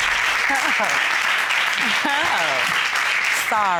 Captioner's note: laughing